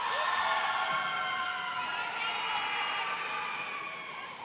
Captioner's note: audience cheers